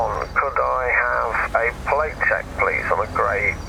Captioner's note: radio